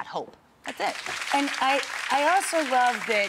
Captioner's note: audience applauds